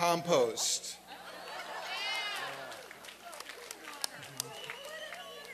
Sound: laughter

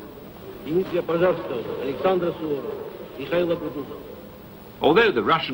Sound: speaking in foreign language

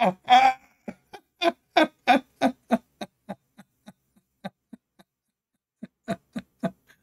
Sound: Ketawa

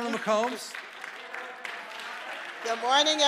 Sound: congregation applauding

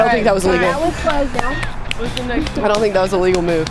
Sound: clapping

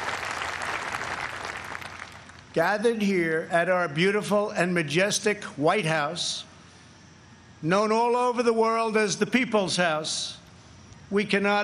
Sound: applause

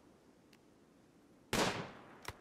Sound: gunshot

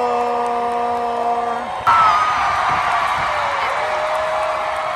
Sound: cheering

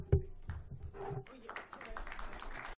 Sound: applause

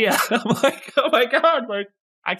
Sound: laugh

